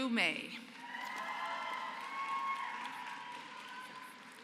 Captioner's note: applause